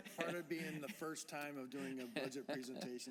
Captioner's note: laughter